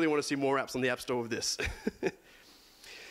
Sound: laughs

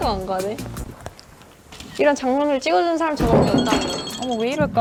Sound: phone drops

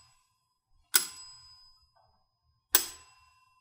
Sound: bell ringing

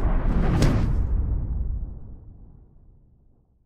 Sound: epic whooshing

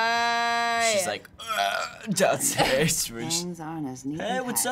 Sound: croaking

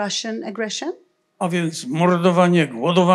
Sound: foreign language

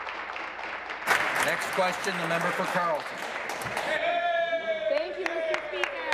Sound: applause

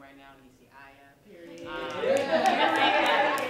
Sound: laughter, applause

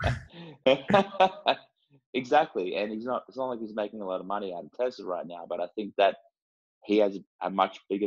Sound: laugh

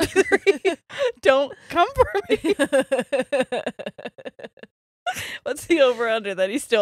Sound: both laughing

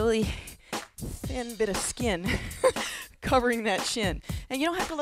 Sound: laughs

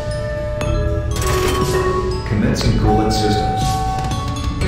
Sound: lever sound, buzzer and announcement chime

